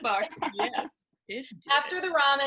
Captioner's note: laughing